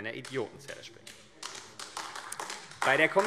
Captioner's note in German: Beifall AfD